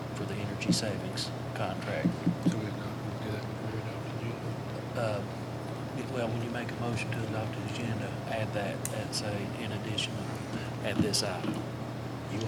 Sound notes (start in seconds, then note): 2.5 faintly speaking